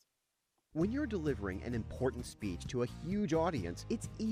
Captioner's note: voiceover